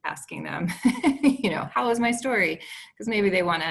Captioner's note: chuckles